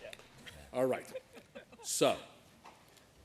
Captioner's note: chuckling